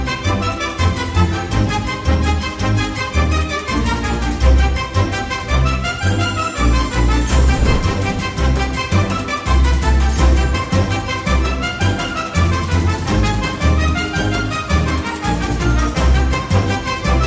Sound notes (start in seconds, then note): none